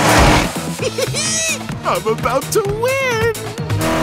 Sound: laughs

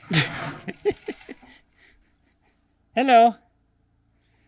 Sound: laughs

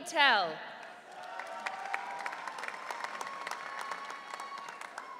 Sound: audience cheering

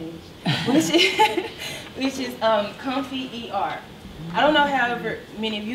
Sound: laughs

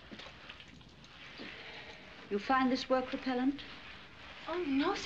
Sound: sighs

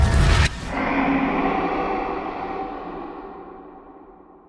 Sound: creature roar

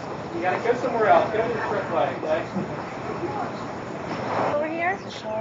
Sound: sounds of cars

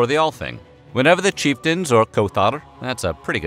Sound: non-english

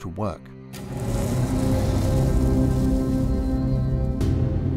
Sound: car whooshing past

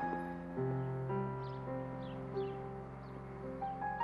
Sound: birds chirping

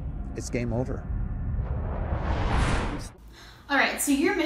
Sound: ship swooshes

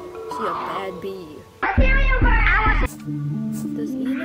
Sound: higher pitched

